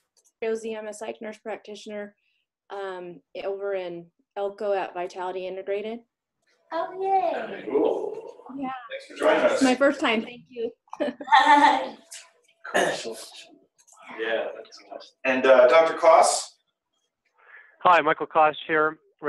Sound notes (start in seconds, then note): 7.8 male Voice; 11.0 laughs; 15.3 male Voice